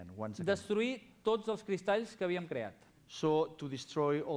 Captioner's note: non-english speech